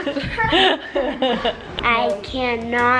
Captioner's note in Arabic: الكل يضحك